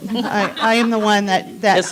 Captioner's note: laughing